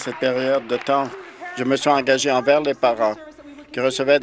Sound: applause

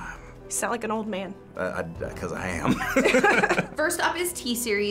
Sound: laughs

